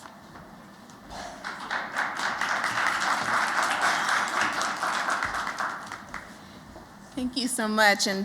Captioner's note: applause